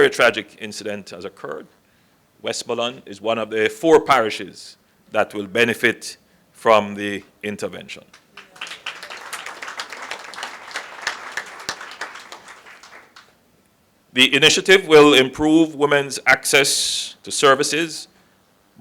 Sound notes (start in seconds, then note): 8.1 applause